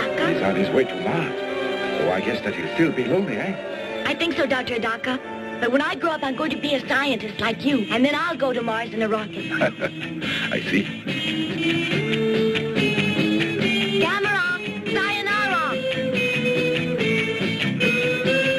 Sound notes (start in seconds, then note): 9.3 laughs; 11.3 upbeat rock music; 15.5 upbeat rock music